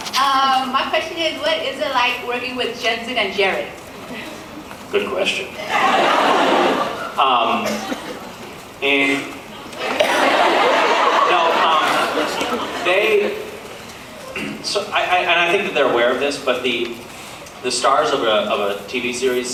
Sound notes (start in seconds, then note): 7.4 laughs; 9.7 laughs; 14.3 clears throat